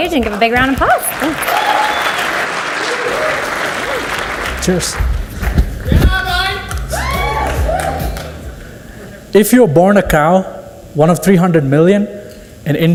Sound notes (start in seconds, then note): 1.7 audience cheers and applauds; 6.1 audience cheers